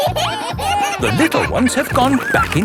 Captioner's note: kids giggling